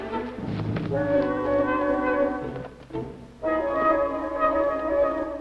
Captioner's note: suspenseful music; rustling